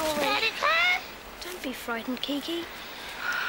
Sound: squawks

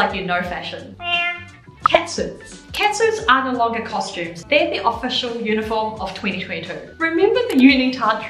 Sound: meow

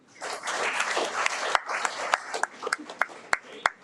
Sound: audience applauds

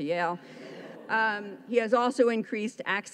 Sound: audience laughs

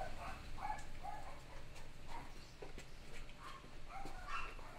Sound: dogs barking

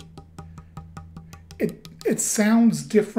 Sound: tapping

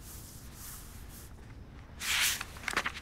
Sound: page turning

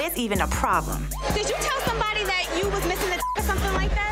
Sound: beep

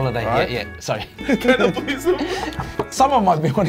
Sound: both laughing

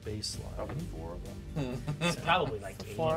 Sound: speaker laughs

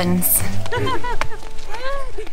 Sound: laughs

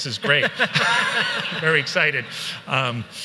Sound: everyone laughs

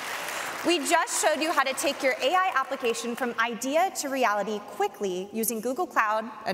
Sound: applause

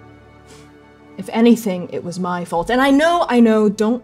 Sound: exhaling

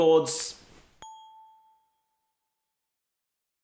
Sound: bell ringing

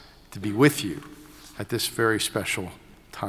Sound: none

